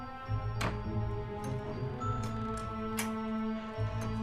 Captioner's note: door clicks